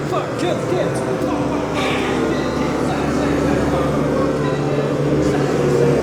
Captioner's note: Kinard continues repeating